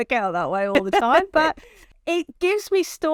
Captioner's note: chuckles